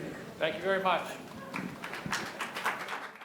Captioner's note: audience members clapping